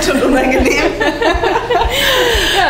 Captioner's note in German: Lachen